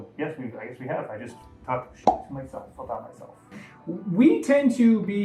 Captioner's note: pop